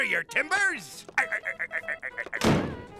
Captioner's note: laughing